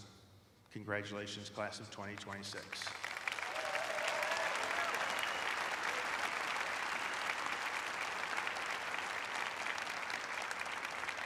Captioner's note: cheers and applause